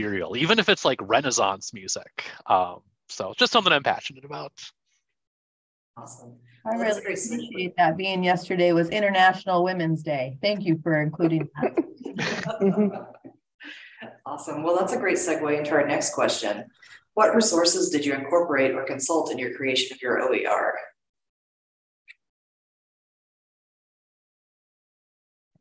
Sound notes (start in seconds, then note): 11.8 chuckle